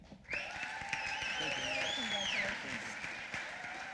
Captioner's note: applause